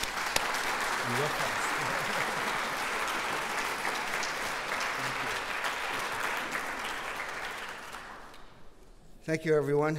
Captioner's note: applause